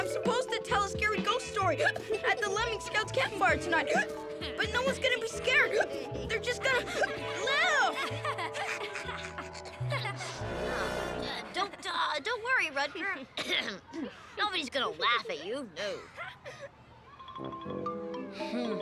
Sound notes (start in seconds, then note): 9.9 both chuckling